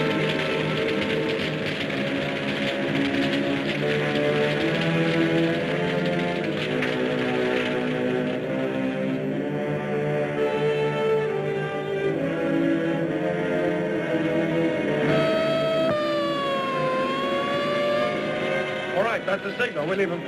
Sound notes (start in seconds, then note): 7.4 dramatic music; 15.0 siren wailing